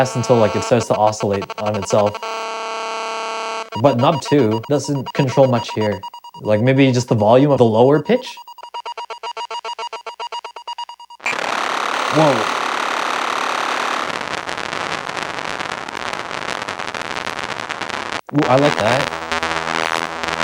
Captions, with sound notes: until it starts to oscillate on itself. But knob two doesn't control much here. Like maybe just the volume of the lower pitch? (upbeat music) (loud crackling) Whoa. Ooh, I like that.